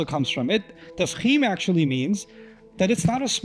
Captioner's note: Arabic